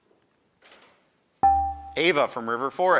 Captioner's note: buzzer dings